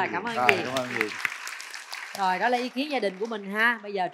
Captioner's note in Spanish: Aplaudir